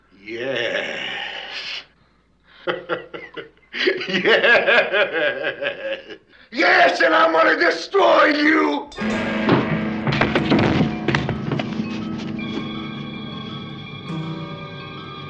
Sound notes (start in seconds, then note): 2.6 laughing